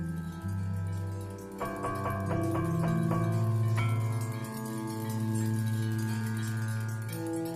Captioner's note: rattling metallic noise